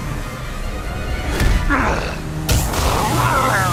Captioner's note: thuds